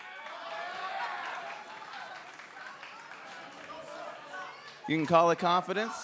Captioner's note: crowd chatter